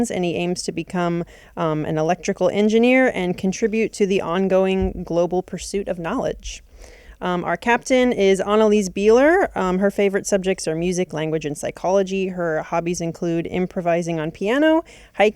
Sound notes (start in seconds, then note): none